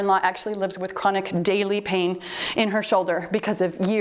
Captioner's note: timer beeps